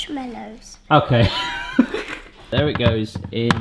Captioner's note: laughing